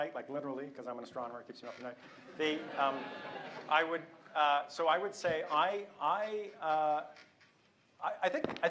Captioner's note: laughter